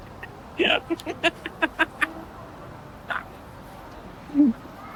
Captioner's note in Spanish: ambos ríen